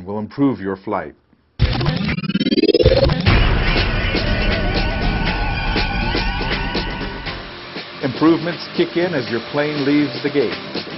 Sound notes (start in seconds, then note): 1.6 tape rewinding sound